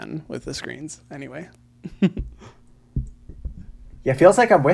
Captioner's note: laughs